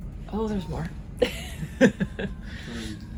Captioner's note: laughs